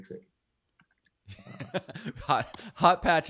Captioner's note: laughs